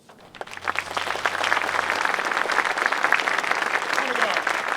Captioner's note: crowd applauds